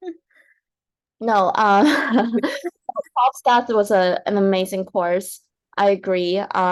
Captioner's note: laughs